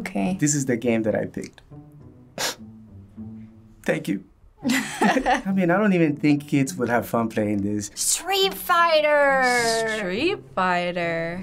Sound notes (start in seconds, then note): 2.3 sniffling; 4.7 laughing